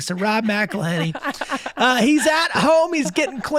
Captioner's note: laughing